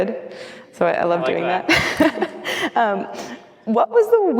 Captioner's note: laughs